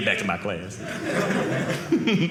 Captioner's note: audience laughing